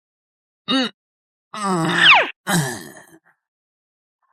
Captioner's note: groan